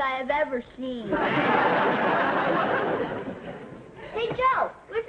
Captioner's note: audience laughing